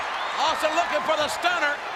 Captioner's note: audience cheers